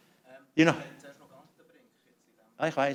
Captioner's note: non-english speech